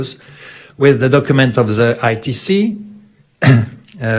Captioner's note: clears throat